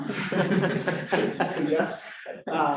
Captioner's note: laughter